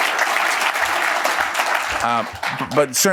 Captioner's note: laughs